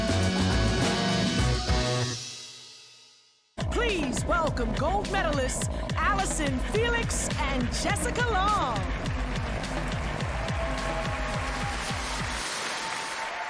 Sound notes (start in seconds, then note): 8.9 cheering